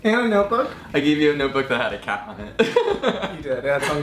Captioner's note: laughing